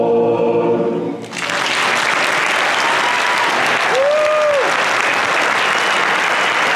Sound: applause

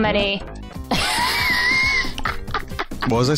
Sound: laughs

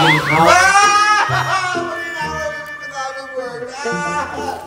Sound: screams mockingly

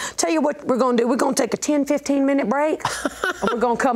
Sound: laughs

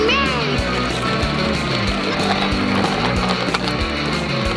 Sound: wheels on pavement

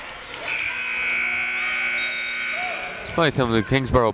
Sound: timer buzzes

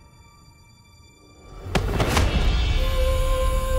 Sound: thud on the ground

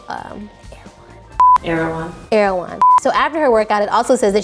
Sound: beep

